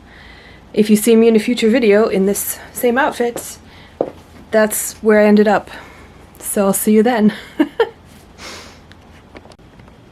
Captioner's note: laughs